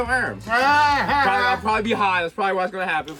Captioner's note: Mero laughs